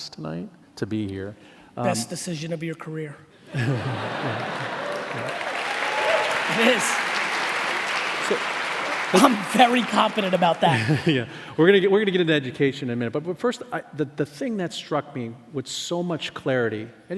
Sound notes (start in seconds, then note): 3.5 laughing and applauding